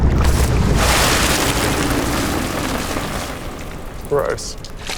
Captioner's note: coffee spattering